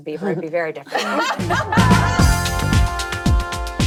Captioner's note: laughing; upbeat music